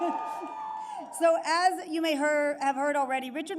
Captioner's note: laughs